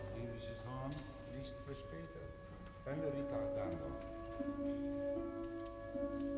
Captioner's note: speaking foreign language over music playing